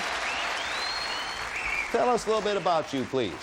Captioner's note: audience whistling